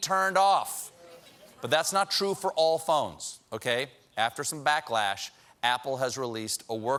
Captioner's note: none